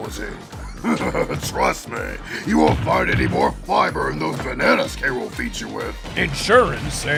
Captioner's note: chuckles